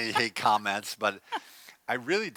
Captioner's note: laughs